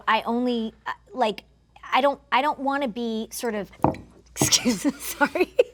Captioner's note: thunking